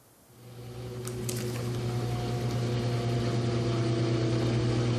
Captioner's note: laundry machine buzzing